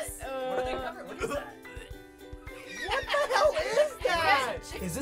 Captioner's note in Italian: conati di vomito